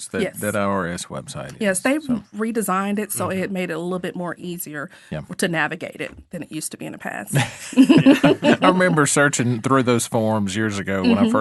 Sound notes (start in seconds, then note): 7.3 all laughing